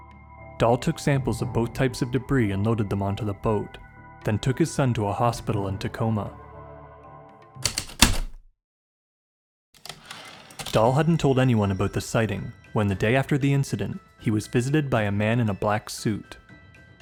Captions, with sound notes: Dahl took samples of both types of debris and loaded them onto the boat, then took his son to a hospital in Tacoma. [Heavy typewriter keystrokes then return slide] Dahl hadn't told anyone about the sighting when, the day after the incident, he was visited by a man in a black suit.